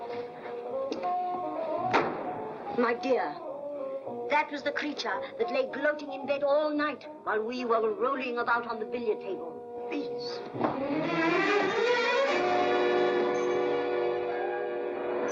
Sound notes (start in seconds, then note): 1.9 door slams; 10.4 dramatic music; 15.1 car rumbles away